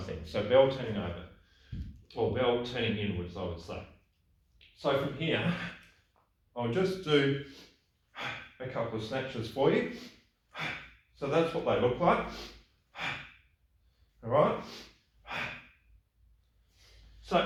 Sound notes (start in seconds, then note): 10.5 gasps loudly; 12.8 gasping loudly; 15.2 gasps loudly